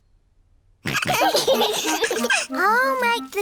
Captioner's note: all laughing